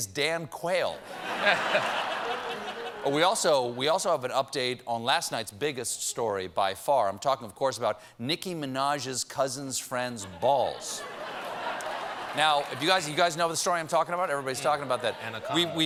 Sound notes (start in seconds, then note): 3.6 laughter